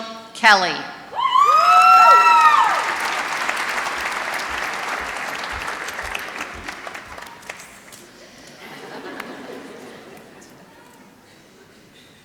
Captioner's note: applause